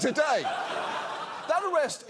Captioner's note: audience laughs